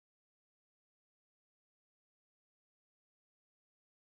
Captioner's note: none